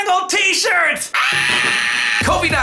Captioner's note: screams